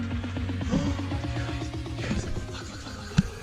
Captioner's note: gasps